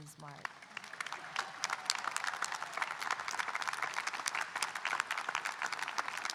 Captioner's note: audience applauding and cheering